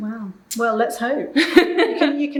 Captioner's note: laughing